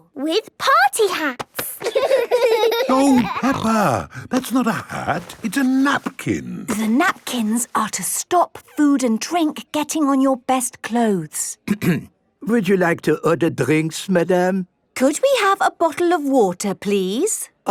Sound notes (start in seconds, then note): 1.7 laughing; 11.6 clears throat